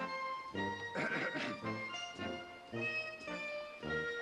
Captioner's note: clearing throat